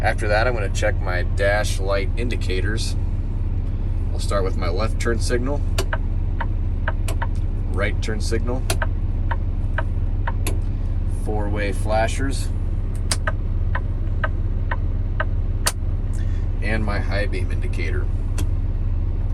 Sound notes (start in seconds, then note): 8.6 clicking; 10.3 clicking; 14.1 clicking